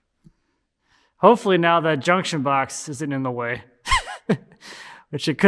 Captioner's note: laughs